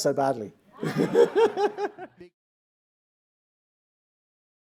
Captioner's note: audience laughing